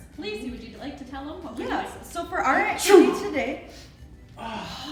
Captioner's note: audible sneeze